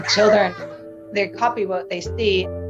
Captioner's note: laughing